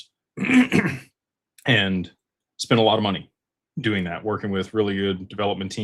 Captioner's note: cough and clears throat